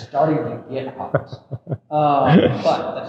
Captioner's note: chuckling